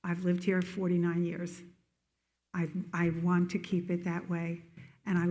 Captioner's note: none